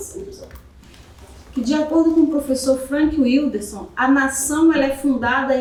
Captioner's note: speaking portuguese